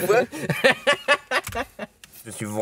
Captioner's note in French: rires